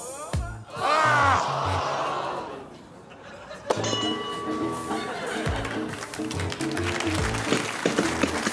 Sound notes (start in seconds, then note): 1.0 audience gasps; 3.7 bell rings